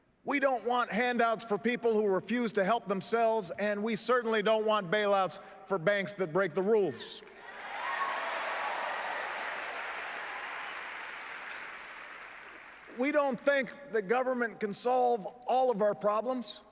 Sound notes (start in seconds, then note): 11.8 applause